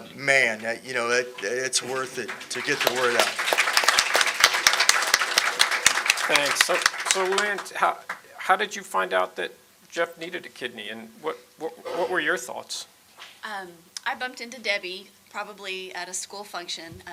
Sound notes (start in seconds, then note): 3.2 audience applauding